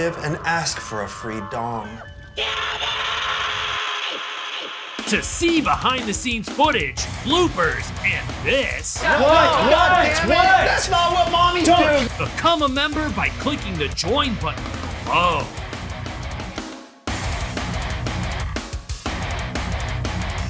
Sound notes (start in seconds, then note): 3.3 screaming; 5.2 voiceover; 8.8 shouting; 12.5 voiceover